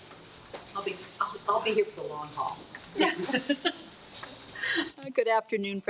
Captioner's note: laughs